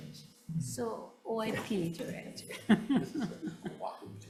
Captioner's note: chuckling